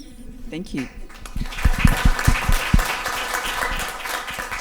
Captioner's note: audience applause can be heard